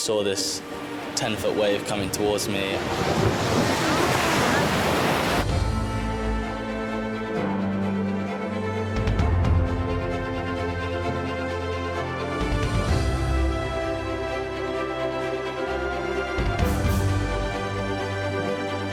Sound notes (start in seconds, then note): 3.0 waves crashing; 5.7 uplifting music; 15.2 uplifting music continues